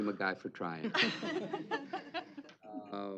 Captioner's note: laughter